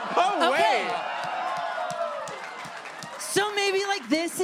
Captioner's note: audience cheers